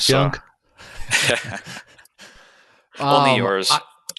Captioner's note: laughing